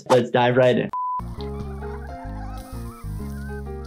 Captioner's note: screen beeping; grill sizzling